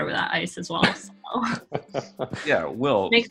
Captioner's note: laughing